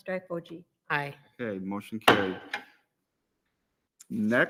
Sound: gavel raps

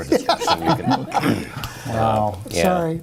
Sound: laughter

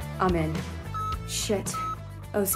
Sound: monitor beeping

